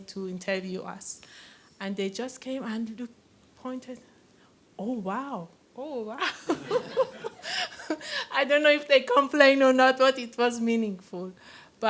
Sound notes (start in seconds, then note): 6.2 laughter